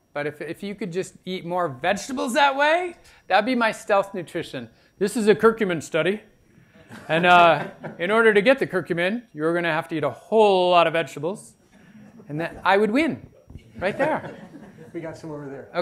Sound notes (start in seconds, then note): 13.8 laughter